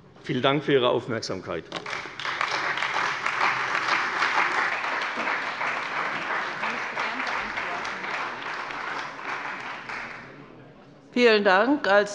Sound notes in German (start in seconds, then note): 1.8 Beifall bei der CDU und dem BÜNDNIS 90/DIE GRÜNEN